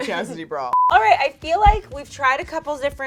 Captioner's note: beeping